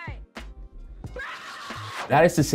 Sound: yelling

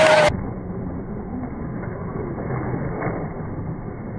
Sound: low motor humming

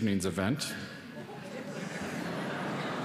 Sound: laughter

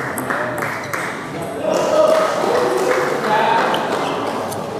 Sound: applause

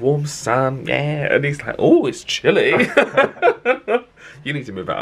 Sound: laughs

